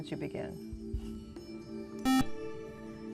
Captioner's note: buzzer